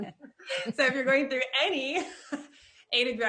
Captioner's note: chuckling; laughs